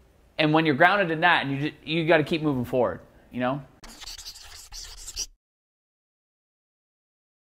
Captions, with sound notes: when you're grounded in that, you gotta keep moving forward. (Scribbling)